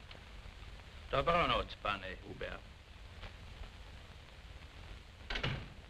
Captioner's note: non-english speech